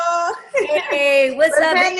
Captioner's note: laughing